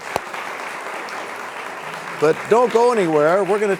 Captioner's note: applause